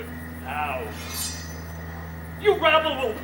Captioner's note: sword unsheathes